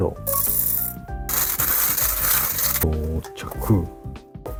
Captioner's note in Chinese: 磨豆子的聲音